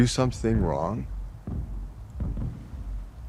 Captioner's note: none